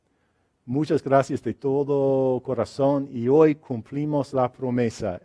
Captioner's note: speaks in foreign language